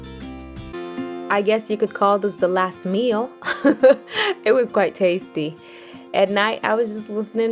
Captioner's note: chuckles